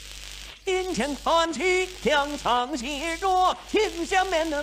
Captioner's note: speaking in foreign language; upbeat music